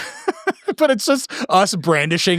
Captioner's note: both laughing